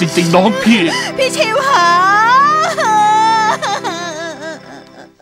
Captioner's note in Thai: ร้องไห้